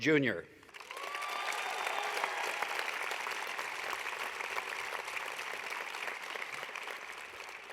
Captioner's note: applause